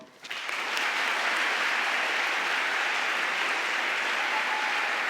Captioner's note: audience applauding